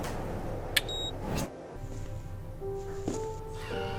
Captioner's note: beeping